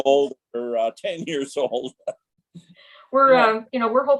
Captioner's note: laughs